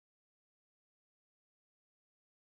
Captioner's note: none